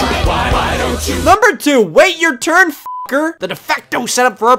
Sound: beep

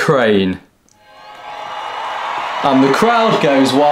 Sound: ecstatic cheers

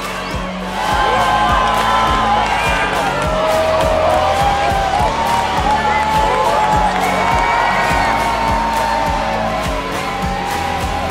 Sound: crowd cheering

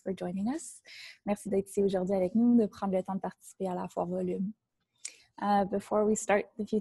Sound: in French

